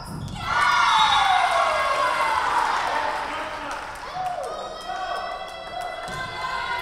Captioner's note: Tigers cheering; whistle blowing